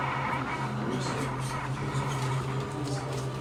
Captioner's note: indistinct chatter